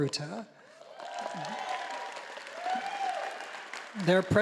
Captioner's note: audience applauding